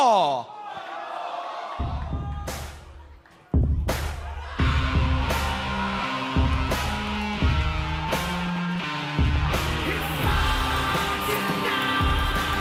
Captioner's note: crowd chatter